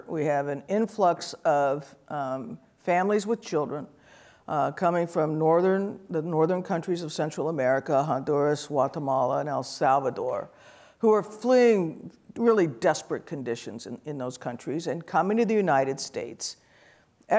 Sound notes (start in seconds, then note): none